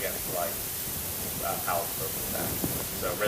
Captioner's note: speaking faintly